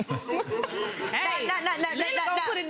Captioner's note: audience laughs